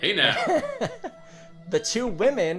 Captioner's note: laughing